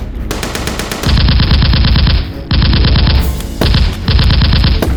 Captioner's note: gunfire rattles